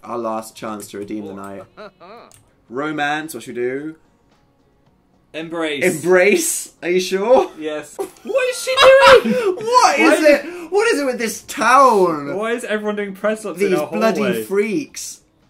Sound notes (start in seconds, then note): 8.1 laughing